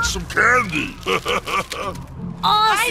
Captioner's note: laughs